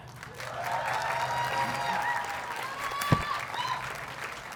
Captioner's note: audience cheers and applauds